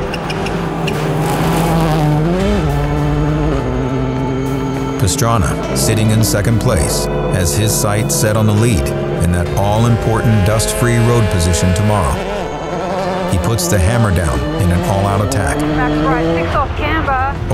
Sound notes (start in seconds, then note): 1.3 car engine revving